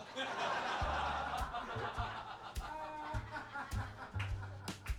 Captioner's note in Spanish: ríen